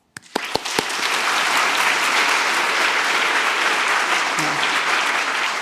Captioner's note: audience clapping